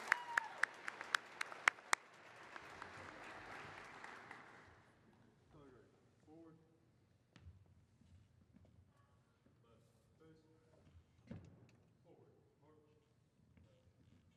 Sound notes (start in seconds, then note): 2.1 applause